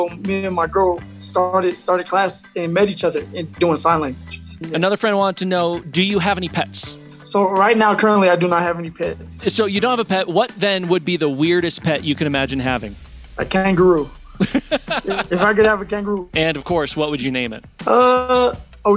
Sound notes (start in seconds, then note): 14.2 host laughs